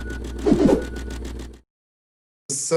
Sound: digital whooshing

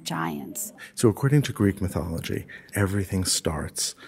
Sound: voiceover

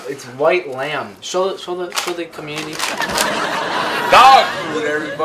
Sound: audience laughs

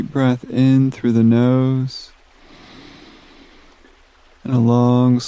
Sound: inhales softly

